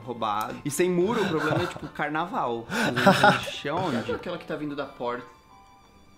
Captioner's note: laughs